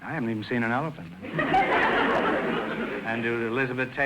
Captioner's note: audience laughter